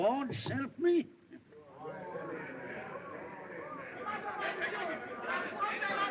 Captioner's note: chatter